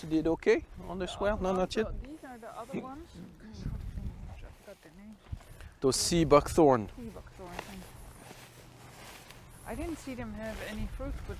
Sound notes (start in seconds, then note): 5.9 speaking in a foreign language